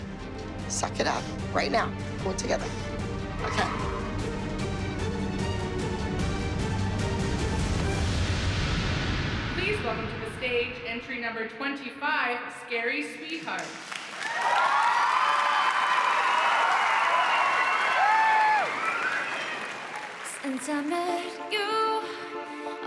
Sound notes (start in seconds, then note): 13.6 crowd cheering